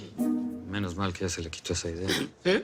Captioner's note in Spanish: Susurra